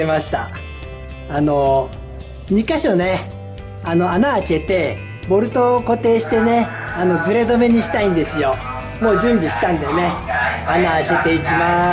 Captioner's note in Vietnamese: cười